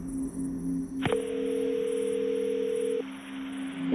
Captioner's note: phone ringing